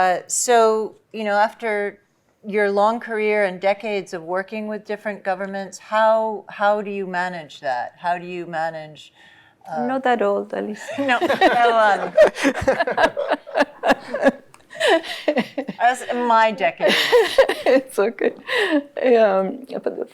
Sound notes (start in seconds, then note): 12.4 laughter